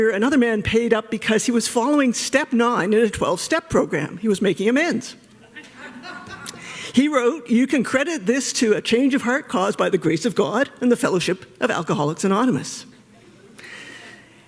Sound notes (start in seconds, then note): 5.3 laughter